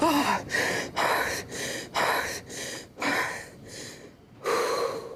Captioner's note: gasps; heavy breathing